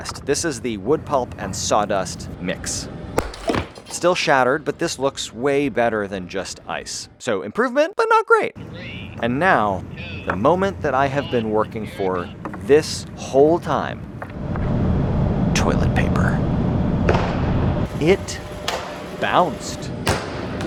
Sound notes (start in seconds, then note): 3.2 wood pulp shattering